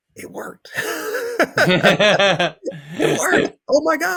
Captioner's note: laughs